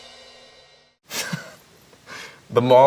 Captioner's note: laughs